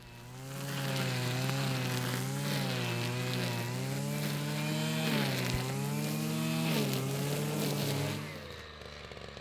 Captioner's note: strimmer operating; strimmer idle